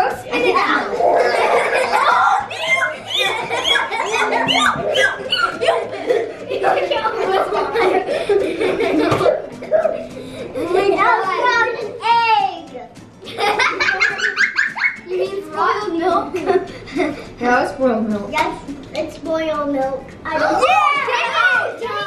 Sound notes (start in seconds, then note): 1.6 all laugh; 13.2 giggles